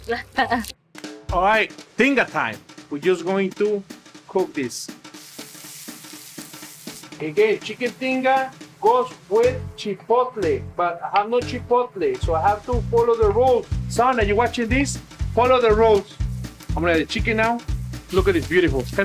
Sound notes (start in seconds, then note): 0.3 laughing; 5.2 pan sizzling